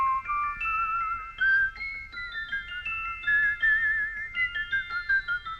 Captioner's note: jolly tune playing; whistling along